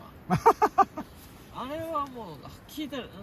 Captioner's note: laughs